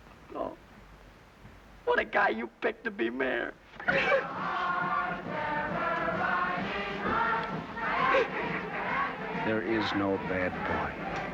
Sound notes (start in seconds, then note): 3.8 sobs; 7.7 upbeat marching band music